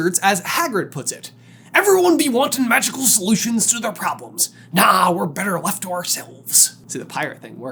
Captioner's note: Extra pirate-y Hagrid voice